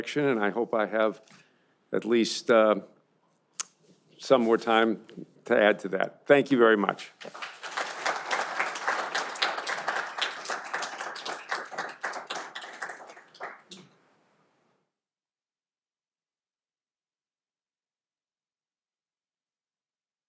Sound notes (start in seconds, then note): 7.2 audience applauding